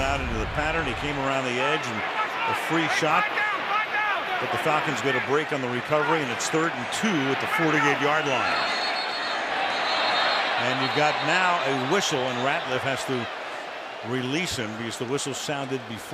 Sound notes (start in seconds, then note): 8.4 whistle